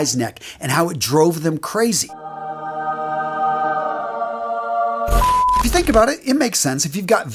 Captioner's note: sound effect